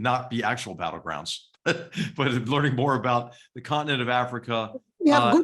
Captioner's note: laugh